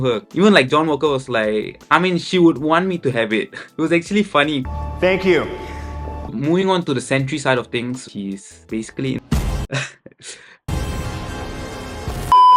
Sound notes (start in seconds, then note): 9.7 laughs